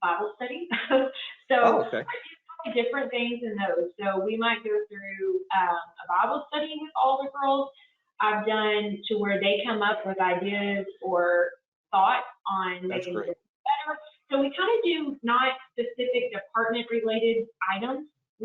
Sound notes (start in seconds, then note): 1.5 murmurs